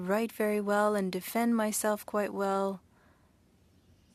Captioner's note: speaking French